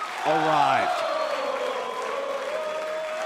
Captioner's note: fans chanting